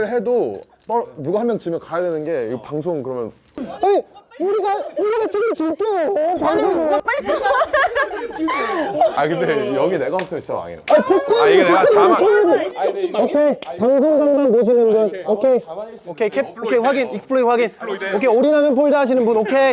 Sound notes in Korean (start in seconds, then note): 6.4 웃음; 19.3 웃음